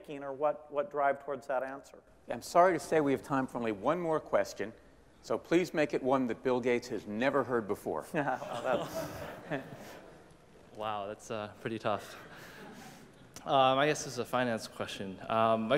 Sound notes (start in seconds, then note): 8.2 laughter